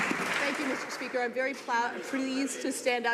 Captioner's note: some Applause